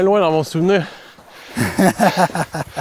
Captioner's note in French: rire